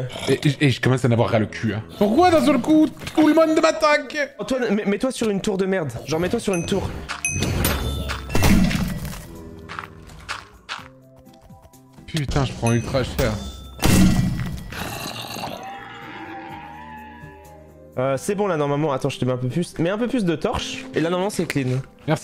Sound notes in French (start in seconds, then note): 7.1 bruits de l'épée d'Étoiles; 13.7 bruits de l'épée d'Étoiles; 14.7 le zombie grogne